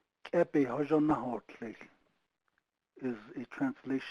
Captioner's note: speaking foreign language